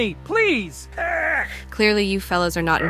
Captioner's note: grease governor groans